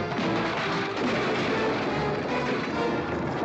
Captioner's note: crash; dramatic music